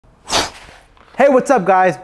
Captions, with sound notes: (whooshing) - Hey, what's up guys?